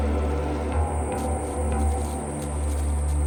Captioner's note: locusts chirping